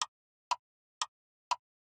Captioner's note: clock Ticking